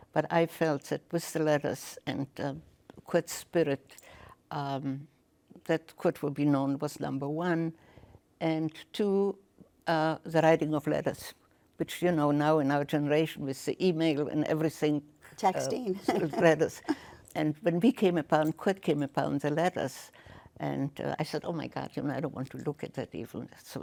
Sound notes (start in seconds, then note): 15.5 chuckles